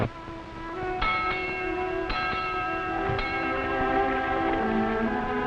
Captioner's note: ship's bell clanging